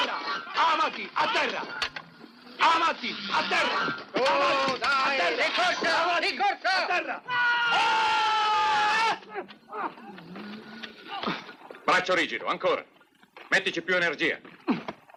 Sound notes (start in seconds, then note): 7.8 man yells; 9.2 grunting